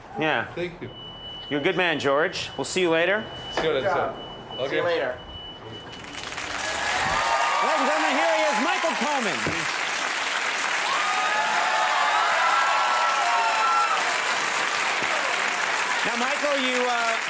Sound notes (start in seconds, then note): 6.1 audience cheers